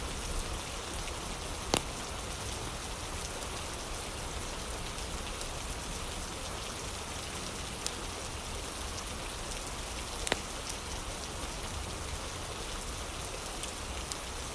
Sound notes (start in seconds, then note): 0.0 fire crackling